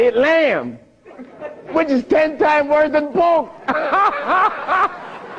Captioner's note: laughter